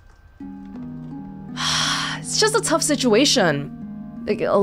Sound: sighs

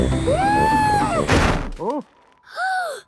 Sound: snowy crashing

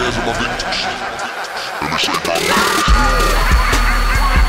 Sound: Joker laugh

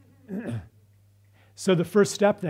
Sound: clears throat

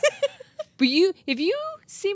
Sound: chuckles

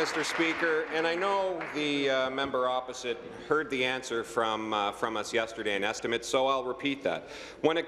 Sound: applause

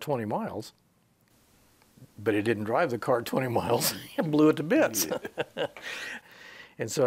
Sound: he chuckles

